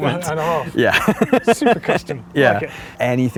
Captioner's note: man laughing